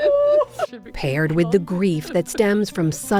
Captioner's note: laughter